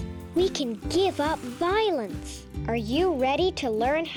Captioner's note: waves sloshing